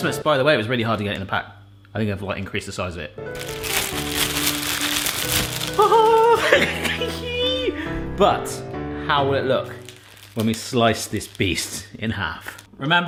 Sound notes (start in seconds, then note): 5.8 laughs